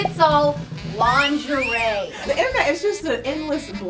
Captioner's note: whistles